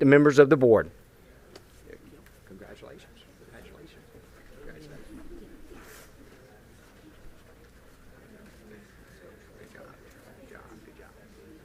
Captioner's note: group chatter